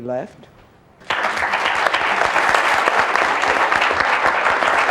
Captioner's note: audience applauds